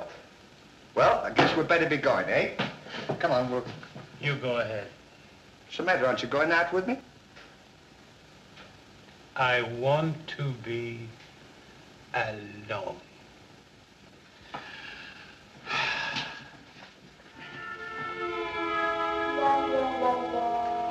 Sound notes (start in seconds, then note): 15.6 deep Sigh